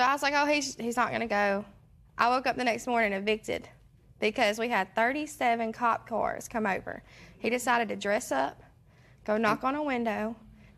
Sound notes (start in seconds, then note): none